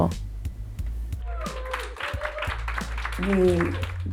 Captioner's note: applause